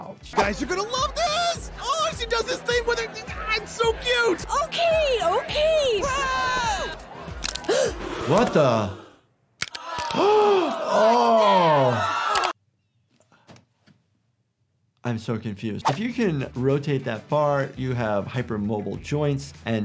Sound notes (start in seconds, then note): 6.0 crown cheers; 7.4 bones crack; 9.6 bones crack; 10.3 gasps